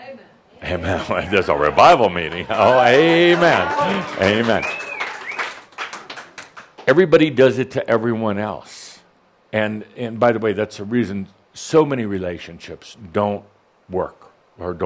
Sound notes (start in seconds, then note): 0.0 someone shouts “Amen!”; 4.6 someone whistles and applause